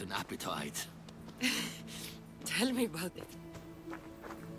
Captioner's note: laugh